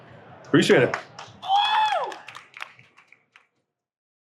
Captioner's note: audience cheering